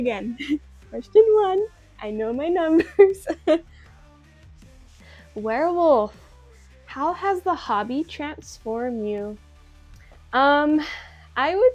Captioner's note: small laugh